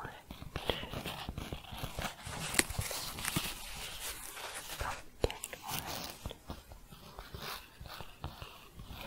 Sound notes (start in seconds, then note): 0.0 scratching and shuffling; 7.0 gentle scratching